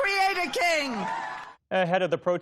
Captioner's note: cheering